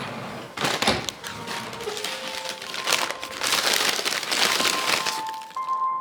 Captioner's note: ruffling of paper sack